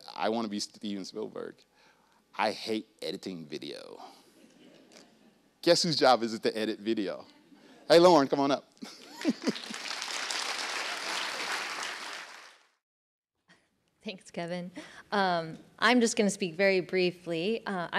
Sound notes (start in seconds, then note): 8.9 applause